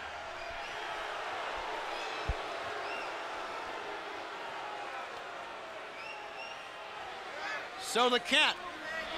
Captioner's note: crowd cheering